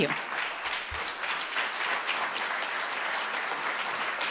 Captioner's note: audience clapping